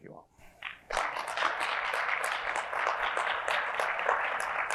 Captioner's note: crowd claps